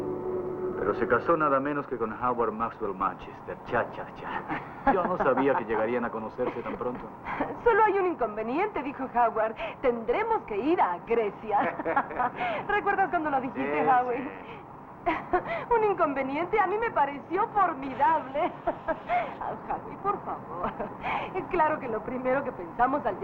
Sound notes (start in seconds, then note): 11.5 laughing; 17.8 laughing